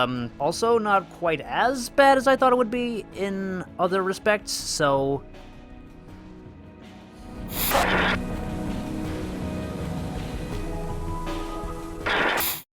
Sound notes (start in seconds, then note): 7.5 static sound effect